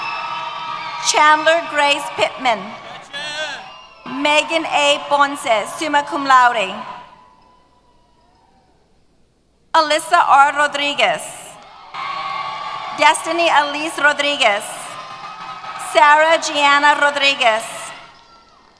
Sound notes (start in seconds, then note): 7.2 cheers